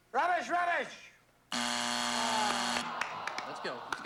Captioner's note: buzzer